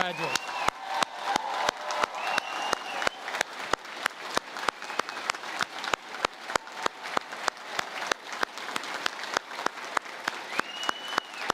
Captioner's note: applause